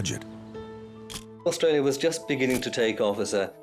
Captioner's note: camera shutter click